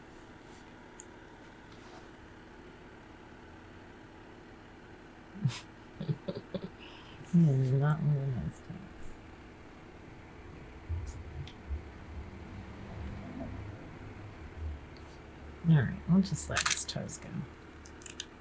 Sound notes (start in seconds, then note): 6.0 giggles